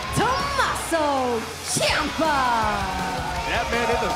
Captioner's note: crowd cheering